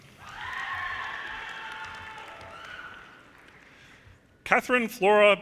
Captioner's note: audience cheers and applause